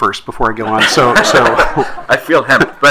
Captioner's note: attendees laughing